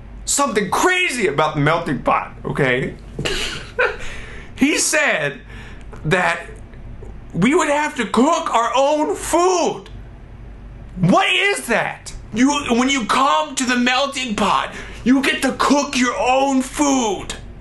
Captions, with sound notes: something crazy about the Melting Pot, okay? He said that we would have to cook our own food! (laughs) What is that? When you come to the Melting Pot, you get to cook your own food!